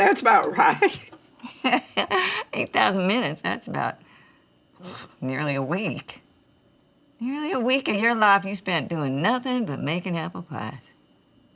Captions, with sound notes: - That's about right. (Dory laughs) - 8,000 minutes. That's about nearly a week. Nearly a week of your life you've spent doing nothing but making apple pies.